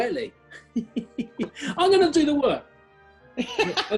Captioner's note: giggling; laughter